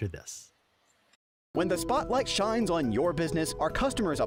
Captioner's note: voiceover